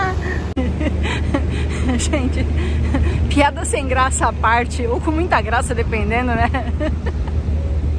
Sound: laughs

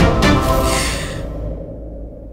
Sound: Poonam inhales

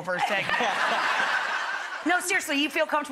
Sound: laughing

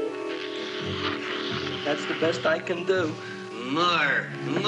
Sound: slurping

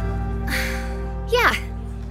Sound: sighs

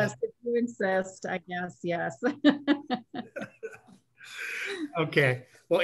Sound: laughter

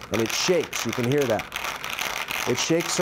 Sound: Ricordi chamber shakes

